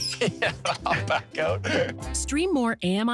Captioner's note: laughs